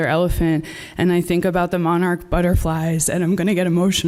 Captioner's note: voice breaking